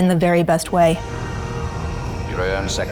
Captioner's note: spinner whistling; announcer speaking in foreign language